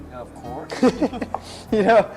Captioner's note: both laugh